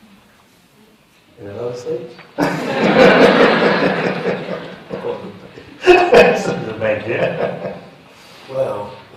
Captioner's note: laughter